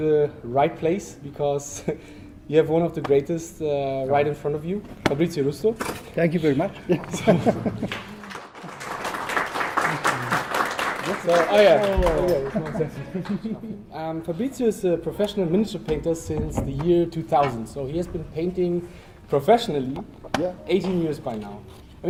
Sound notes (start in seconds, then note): 7.8 applause